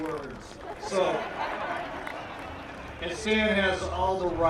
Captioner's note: laughter